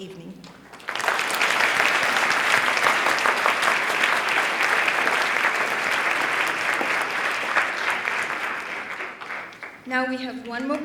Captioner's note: applause